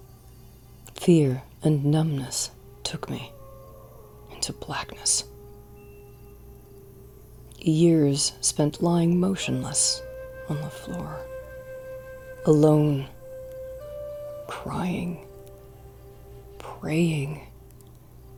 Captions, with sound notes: Fear and numbness, took me into blackness. (Sound of howling wolves) Years spent lying motionless on the floor. Alone. Crying. Praying